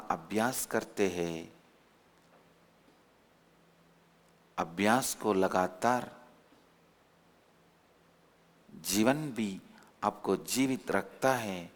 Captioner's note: hindi